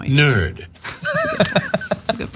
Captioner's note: laugh